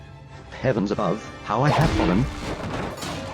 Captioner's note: roar